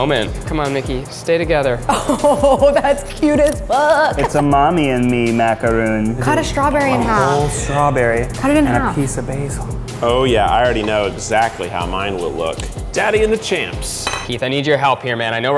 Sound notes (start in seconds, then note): 1.9 laughing